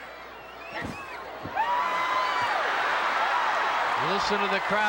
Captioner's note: audience cheering